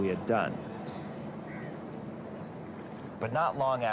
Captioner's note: seagulls squawking